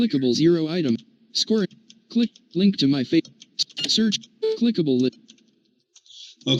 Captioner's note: screen reader reading bits of text